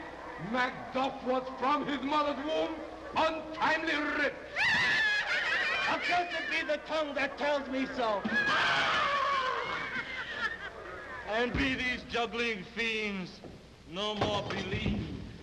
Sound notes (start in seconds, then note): 4.6 women laughing